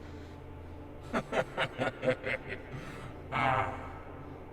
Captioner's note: leprechaun laughing